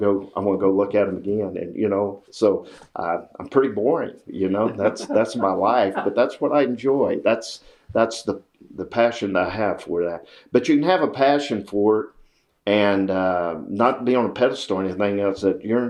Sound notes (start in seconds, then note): 4.5 laughter